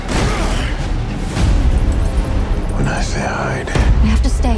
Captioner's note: Geralt grunts; door bursting